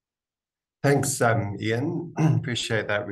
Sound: coughs

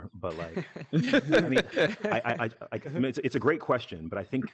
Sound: group laughing

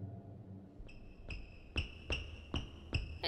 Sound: shoes squeaking

